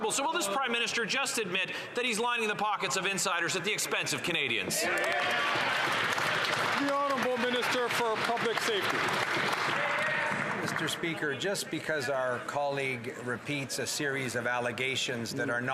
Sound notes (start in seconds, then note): 10.6 some Applause